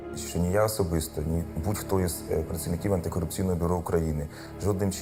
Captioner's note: speaking foreign language